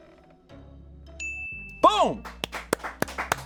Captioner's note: bell dings; audience applauding